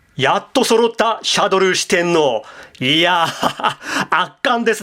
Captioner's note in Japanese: 笑い